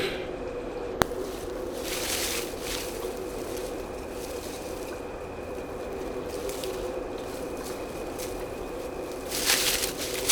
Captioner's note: sounds of picking flowers